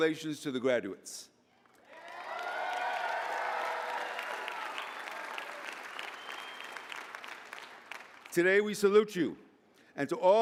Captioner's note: applause